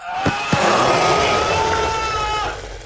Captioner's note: screams